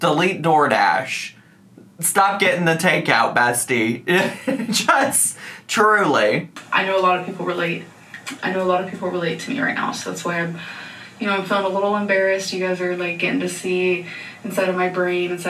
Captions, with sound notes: Delete Door Dash. Stop getting the takeout, bestie. (man chuckling) Just, truly. - I know a lot of people relate. I know a lot of people relate to me right now, so that's why I'm, you know, I'm feeling a little embarrassed. You guys are like getting to see inside of my brain,